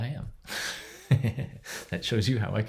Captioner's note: laughs